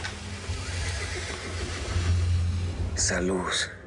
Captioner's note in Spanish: Relinchos